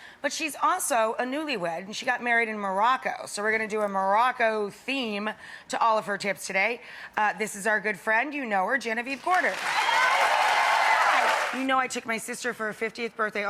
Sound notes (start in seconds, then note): 9.2 cheering and clapping